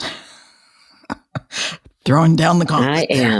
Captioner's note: laughing